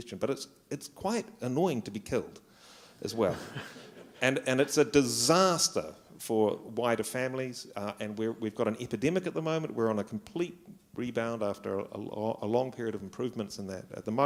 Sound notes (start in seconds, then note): 3.2 laughter